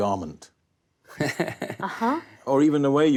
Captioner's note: actor laughs